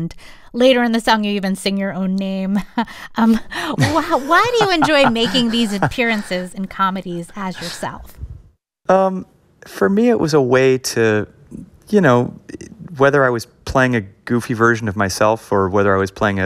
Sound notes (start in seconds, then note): 3.7 laughter